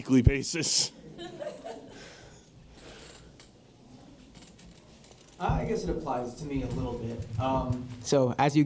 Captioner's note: laugh